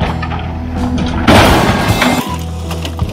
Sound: quiet metal bar drop sound effect

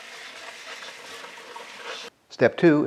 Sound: water running

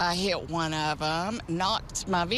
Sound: nats of cars driving b

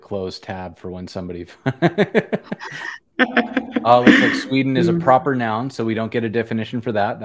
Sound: laughter

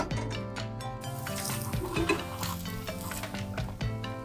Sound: pancake sizzles

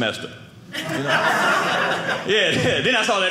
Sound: audience laughing

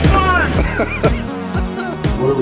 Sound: laughs

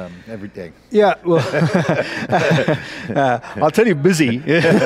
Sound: laughs

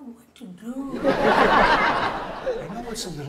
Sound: audience laughs

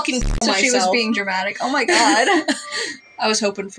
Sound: chuckle; laugh

